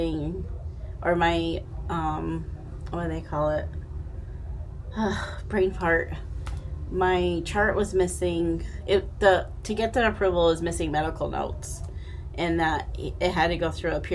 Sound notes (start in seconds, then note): 5.0 sighing